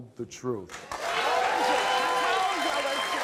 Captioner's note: audience claps and cheers